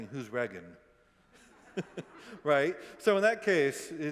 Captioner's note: all chuckle